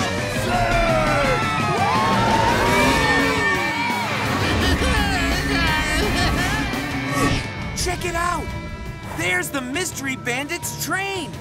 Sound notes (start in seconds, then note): 4.2 groaning